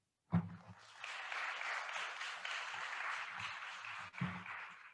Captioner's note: attendees applauding